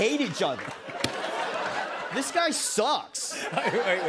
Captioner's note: laughter